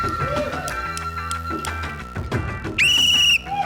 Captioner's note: scattered cheering; blows whistle; cheering, applause